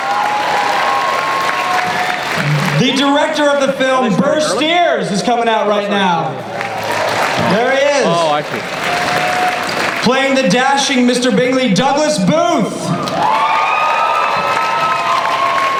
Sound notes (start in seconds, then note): 0.0 audience applause; 6.4 applause; 12.9 audience applause